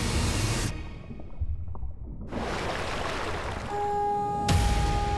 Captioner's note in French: bruit des bulles sous l'eau